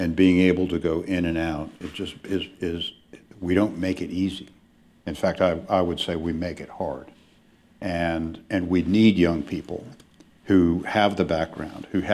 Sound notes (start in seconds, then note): none